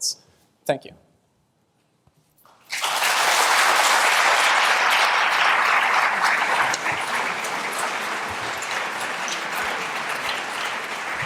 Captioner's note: applause